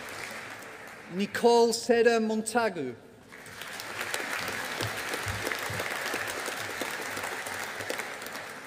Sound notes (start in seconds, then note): 3.3 audience applauding